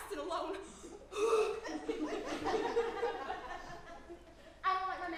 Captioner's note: breathing heavily; audience giggling